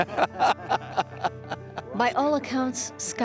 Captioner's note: group laughs